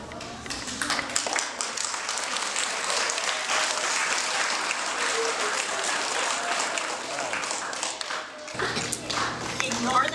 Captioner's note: applause